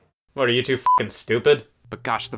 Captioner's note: beep